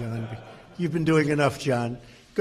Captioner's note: laughter